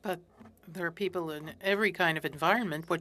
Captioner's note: speaking French